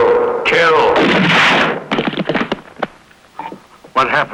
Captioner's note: gun firing; thuds